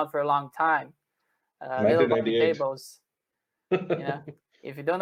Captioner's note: laughter